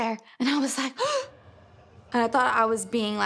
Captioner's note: gasps